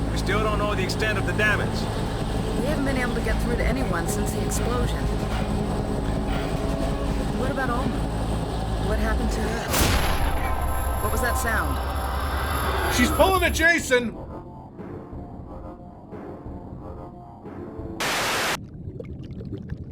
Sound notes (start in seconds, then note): 18.0 TV buzzing